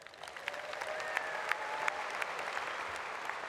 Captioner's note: applause